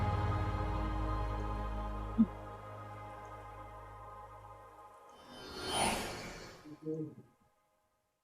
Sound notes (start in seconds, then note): 0.0 bus noise; 2.2 digital whooshing sound